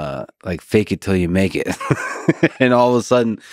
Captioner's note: laughs